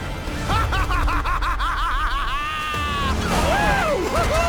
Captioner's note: crazy laughing